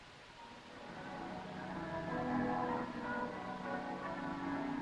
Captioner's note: bells pealing